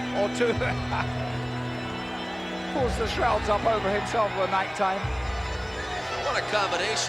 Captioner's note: laugh